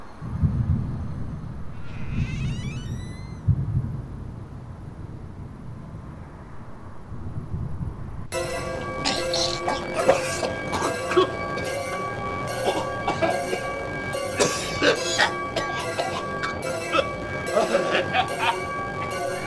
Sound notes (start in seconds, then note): 0.3 sound of thunderstorm; 1.7 sound of door creaking; 8.3 horror sounds; 9.0 sound of choking